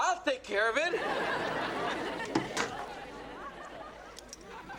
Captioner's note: audience laughs